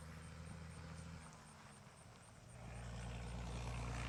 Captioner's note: tractor engine